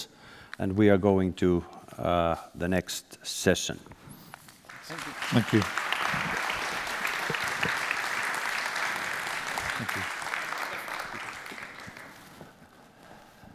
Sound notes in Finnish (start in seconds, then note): 6.1 Applause